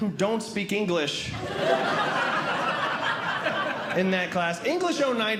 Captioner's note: audience Laughing